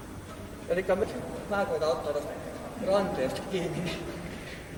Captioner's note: laughing